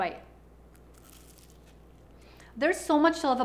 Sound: baklava crunching

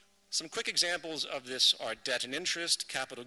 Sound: none

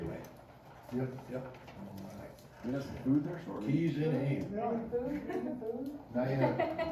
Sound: chatter

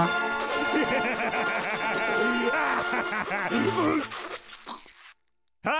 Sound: laughing

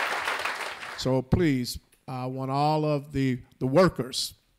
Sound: applause

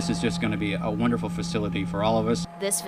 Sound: construction noises

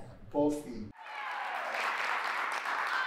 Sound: applause

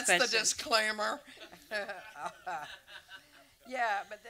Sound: audience laughter

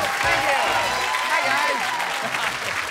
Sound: laughing

